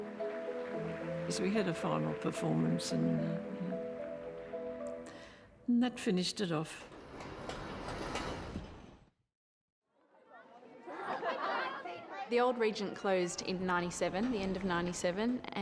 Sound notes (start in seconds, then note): 0.0 audience applauding; 0.0 gentle music; 6.7 curtain rolling